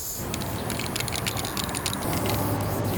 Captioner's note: spraypaint sprays; spraypaint can rattles